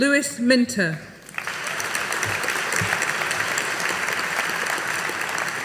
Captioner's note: audience applauding